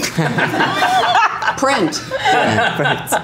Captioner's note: laughs